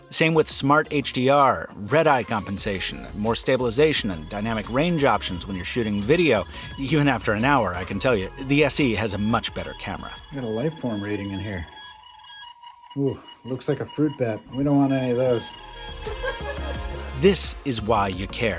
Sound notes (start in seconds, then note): 12.7 scanner beeping; 15.7 woman laughing